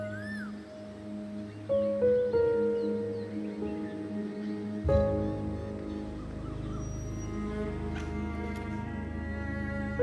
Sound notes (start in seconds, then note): 8.0 Door opens